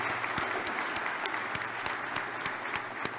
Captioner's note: applause